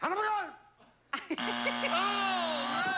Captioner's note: buzzer